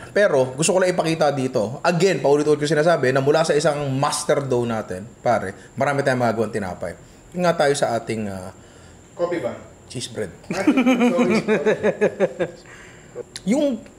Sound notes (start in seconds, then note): 10.5 laughs